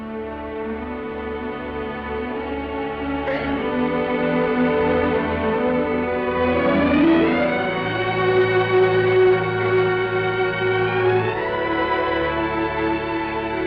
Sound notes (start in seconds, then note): 2.5 Esther sobs; 2.5 sentimental music